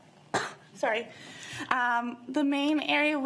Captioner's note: coughs